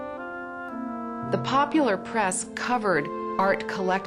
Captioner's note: gentle orchestral music; voiceover